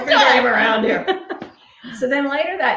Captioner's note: laughing